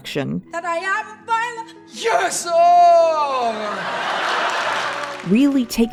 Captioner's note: audience laughter and applause